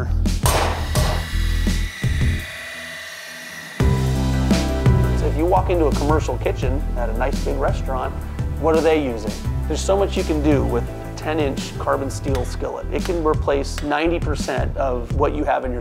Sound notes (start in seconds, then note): 0.4 metal clangs; 0.4 metal grinds; 2.5 upbeat music